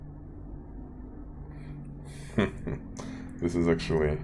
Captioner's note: brief Laughter